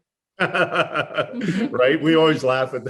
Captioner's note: laughs